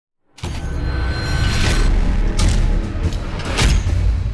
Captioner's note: clanking